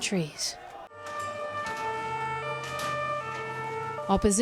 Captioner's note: siren wails